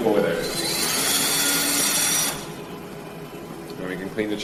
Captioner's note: drill whirring